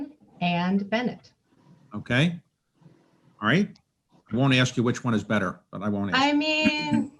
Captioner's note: laughter